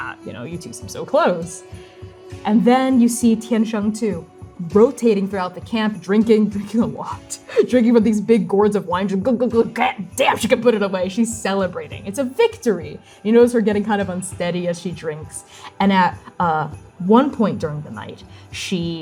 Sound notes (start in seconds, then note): 7.3 laughing